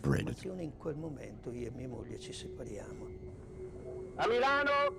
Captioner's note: Italian spoken audio